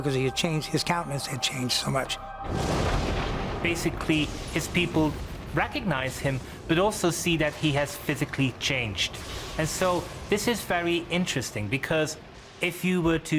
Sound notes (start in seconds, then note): 1.7 thunder